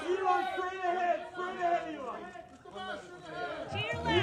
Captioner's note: photographers all yelling